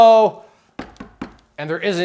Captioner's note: knocking